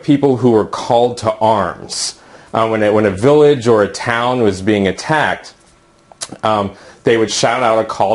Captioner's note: ummm